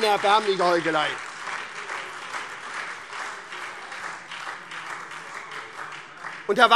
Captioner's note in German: Beifall SPD